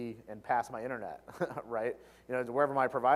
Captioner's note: laugh